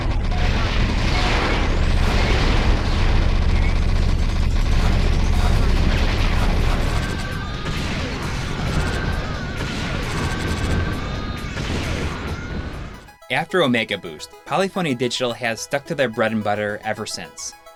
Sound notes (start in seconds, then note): 4.5 game audio